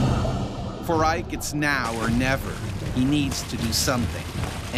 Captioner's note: voiceover